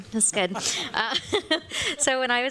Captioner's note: laughter